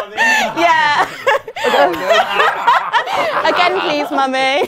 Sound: people laughing

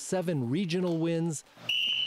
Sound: coach's whistle

